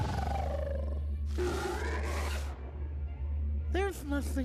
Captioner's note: growling; roaring